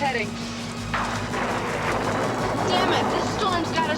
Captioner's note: thunder crashing